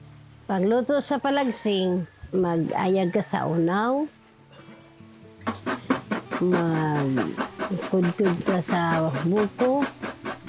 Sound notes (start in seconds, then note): none